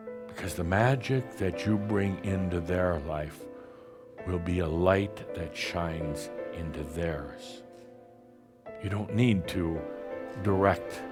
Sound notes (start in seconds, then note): none